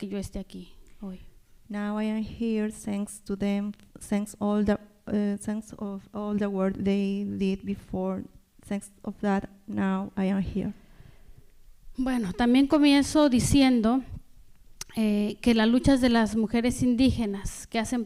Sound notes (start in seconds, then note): 12.0 speaking spanish